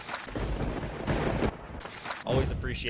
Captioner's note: thunder crackles